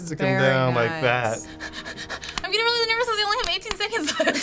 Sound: hyperventilating

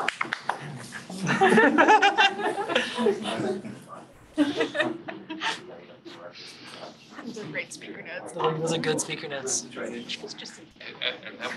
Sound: laughing

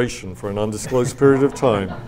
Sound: and audience laughs

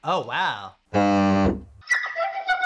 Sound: high squeak plays; low buzzing noise

